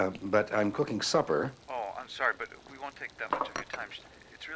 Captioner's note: on phone